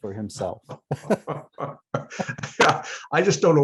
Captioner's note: laughter